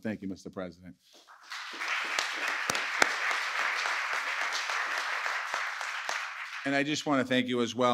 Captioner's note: applause